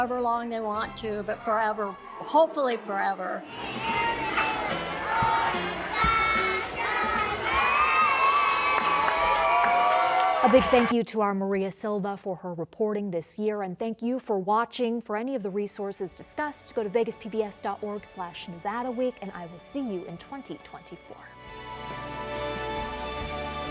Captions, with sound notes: you know, for however long they want to. But forever, hopefully forever. [singing] [cheers and applause] A big thank you to our Maria Silva for her reporting this year, and thank you for watching. For any of the resources discussed, go to vegaspbs.org/nevadaweek. And I will see you in 2024.